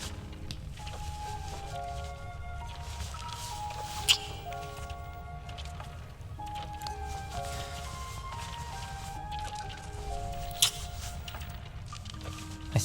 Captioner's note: kissing noises